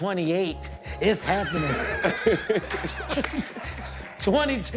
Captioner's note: laughter